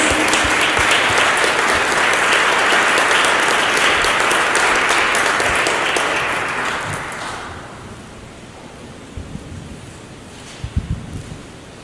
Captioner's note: applause